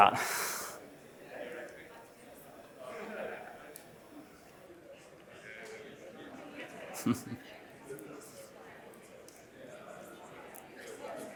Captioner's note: laughs